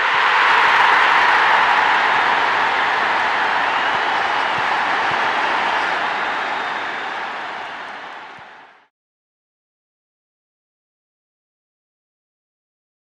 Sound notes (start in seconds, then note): 0.7 crowd roaring